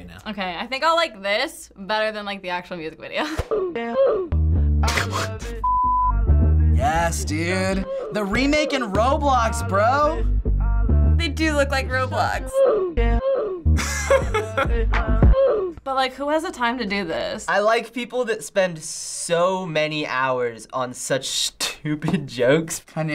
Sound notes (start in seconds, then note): 4.7 snickers; 13.8 laughs